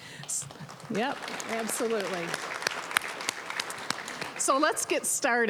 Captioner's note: applause